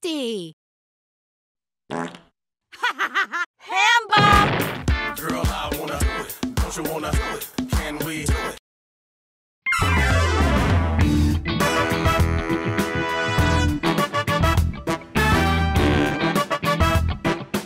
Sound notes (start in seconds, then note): 1.9 farting; 2.8 laughing; 9.8 uptempo music